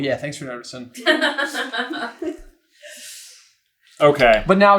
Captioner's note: team laughter